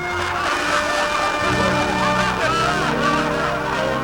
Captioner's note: laughter